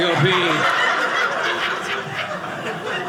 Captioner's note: audience laughing